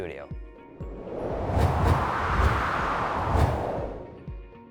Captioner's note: whooshing